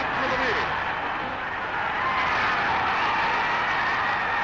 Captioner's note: crowd cheering